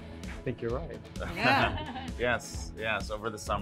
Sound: laughing

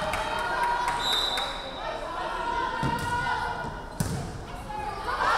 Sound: referee whistling

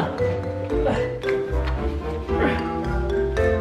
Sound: grunts; silly music

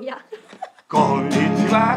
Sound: laughs

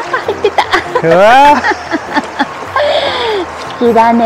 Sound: laughs

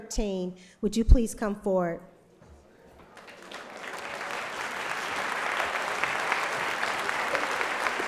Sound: applause

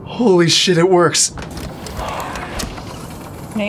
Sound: <i>door opens</i>

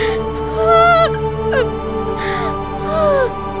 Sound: cries and gasps in pain

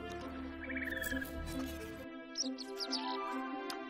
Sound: soothing music; birds chirping

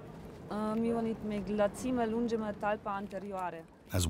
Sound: speaking in foreign language

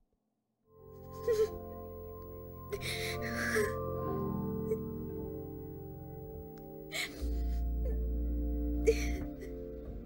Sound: woman crying

